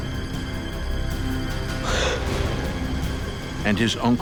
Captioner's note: gasps